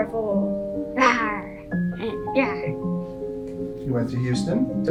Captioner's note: roars